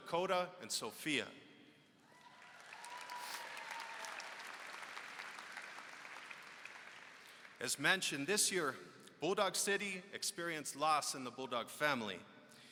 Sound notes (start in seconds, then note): 2.0 applause